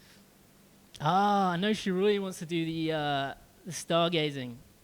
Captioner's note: none